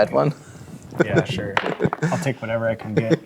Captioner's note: laughing; dice rolling